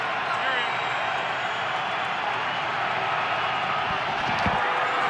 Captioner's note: crowd cheering